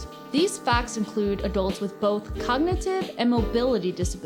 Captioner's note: none